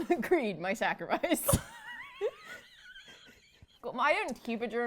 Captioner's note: laughter